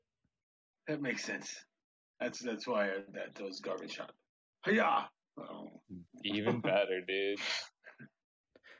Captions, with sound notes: That makes sense. That's why that was a garbage shot. Hiya! .....ohhhhh [groaning and chuckling] Even better dude...